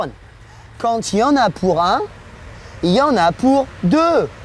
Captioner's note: speaks in foreign language